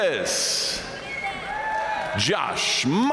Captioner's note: audience cheering and applauding